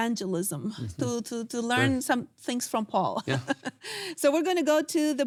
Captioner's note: laughs